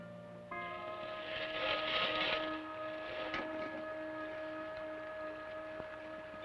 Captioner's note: suspenseful orchestral music; scraping